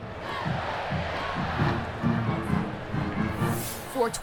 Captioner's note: crowd cheering